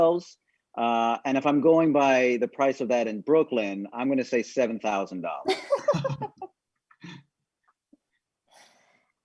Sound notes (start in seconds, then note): 5.5 laughing